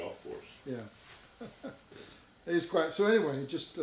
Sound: chuckling

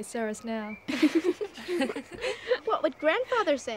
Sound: laughter

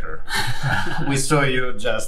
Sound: laughter

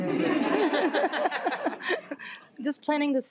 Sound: people laughing

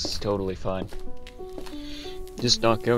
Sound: deep breath

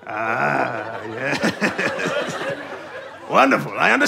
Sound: chuckles

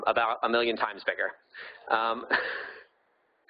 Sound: laughing

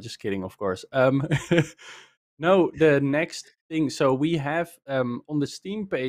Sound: laughs

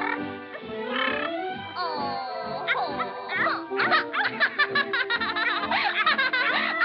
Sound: laughs

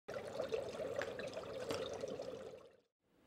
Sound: bubbling

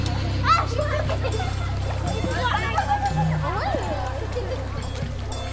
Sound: laughter as kids play in the river

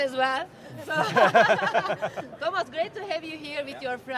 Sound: laughs

